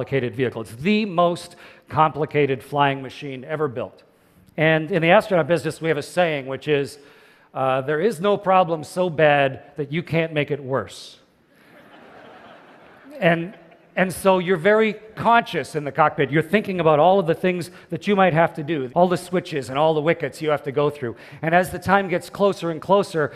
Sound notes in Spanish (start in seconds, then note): 11.6 Risas